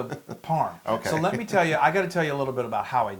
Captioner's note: laugh